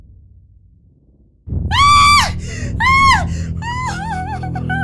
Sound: May screams

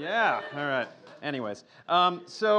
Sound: laughter

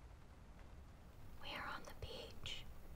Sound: whispering

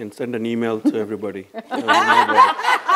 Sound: laughter

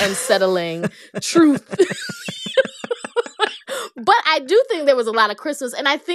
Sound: laughter

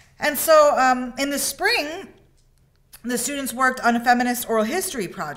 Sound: none

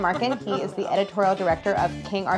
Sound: laughs

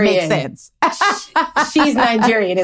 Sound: laughs

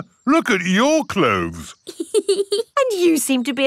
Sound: laughs

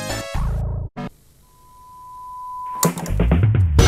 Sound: TV static

